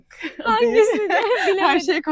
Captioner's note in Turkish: kahkaha